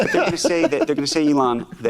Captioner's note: laughs